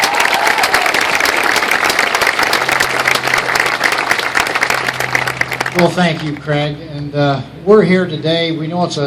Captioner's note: applause